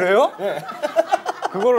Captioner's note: laughing